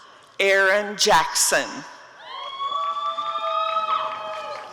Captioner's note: applause and cheering